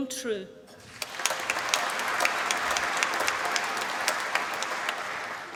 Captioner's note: applause